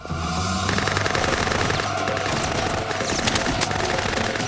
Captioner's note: gunfire